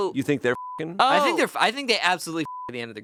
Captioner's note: beep